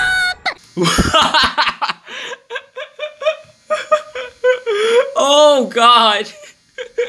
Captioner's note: laughs